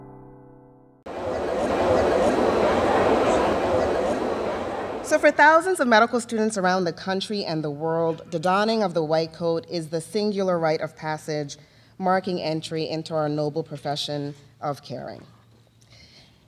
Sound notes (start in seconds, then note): 1.1 students talking